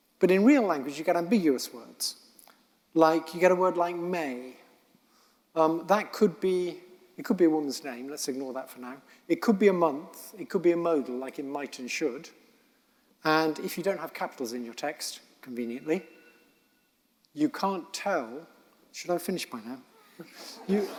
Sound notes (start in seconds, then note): 16.5 cell phone rings; 20.0 audience laughing